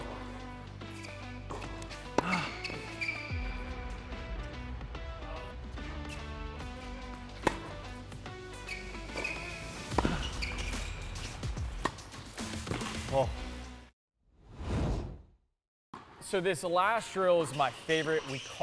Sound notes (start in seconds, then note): 0.0 shoes squeak; 0.2 ball thuds; 14.7 air swooshes